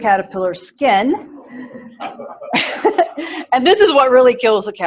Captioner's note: laughter